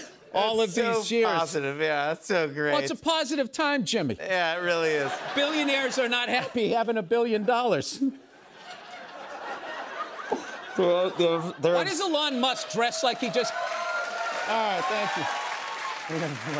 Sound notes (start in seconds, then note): 4.9 laughter; 8.4 laughter; 12.1 cheers and applause